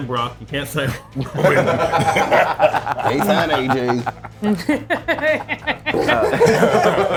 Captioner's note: laugh